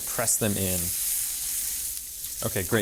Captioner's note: pan sizzling